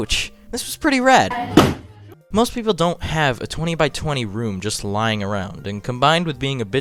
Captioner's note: punch wall